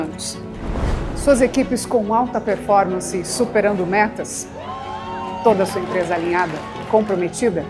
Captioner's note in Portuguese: aplausos